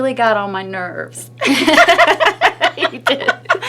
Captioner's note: both laugh